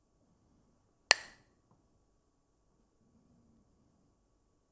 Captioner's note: clacks the sticks